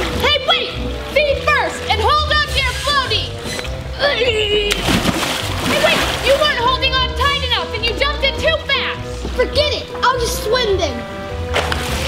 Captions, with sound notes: - Hey wait! Feet first and hold onto your floaty! (grunting) - Hey wait! You weren't holding on tight enough and you jumped in too fast! - Forget it! I'll just swim then.